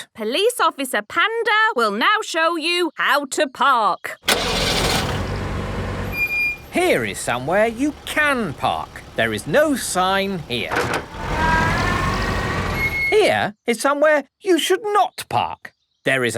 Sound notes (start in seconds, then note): 4.4 car engine starting; 6.2 breaks squeaking